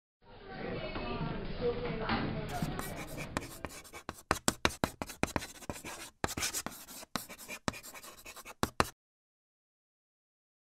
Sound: people talking, writing on chalkboard

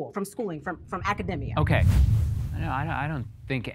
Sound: air quivers

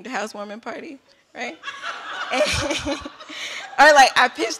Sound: laughter

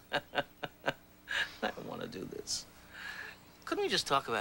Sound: laughs

